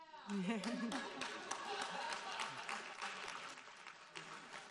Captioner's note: audience laughing